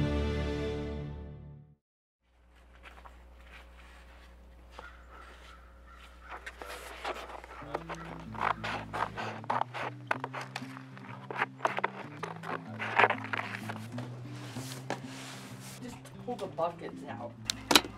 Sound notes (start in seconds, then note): 3.1 bird cawing; 3.1 gravel crunching; 9.3 cardboard scraping; 9.3 gentle guitar music